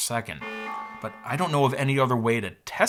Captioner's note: horn beeping